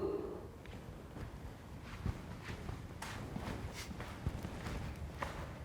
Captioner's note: faint footsteps thumping